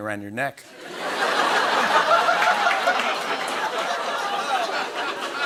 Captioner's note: laughter